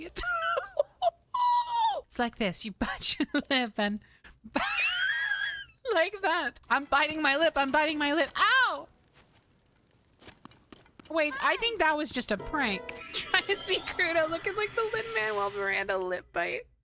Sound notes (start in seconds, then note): 0.2 laughter; 4.5 laughter